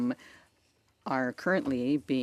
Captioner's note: speaking in French